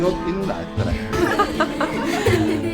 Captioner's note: laughter